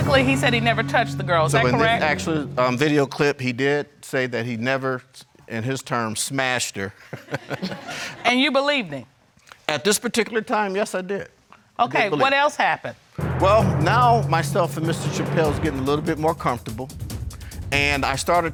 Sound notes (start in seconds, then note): 7.1 crowd laughing; 7.2 laughs